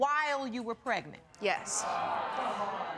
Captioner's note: audience exclaiming